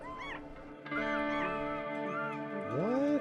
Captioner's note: puppies yelping